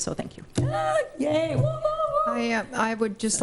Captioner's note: cheering